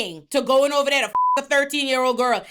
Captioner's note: beep